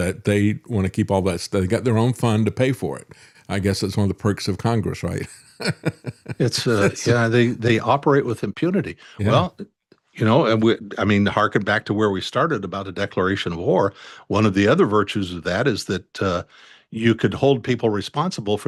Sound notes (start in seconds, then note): 5.2 laughs